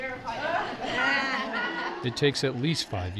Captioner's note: laughing